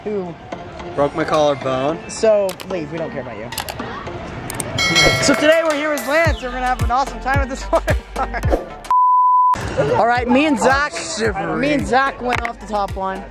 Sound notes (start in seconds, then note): 4.8 bell dinging; 9.6 laughing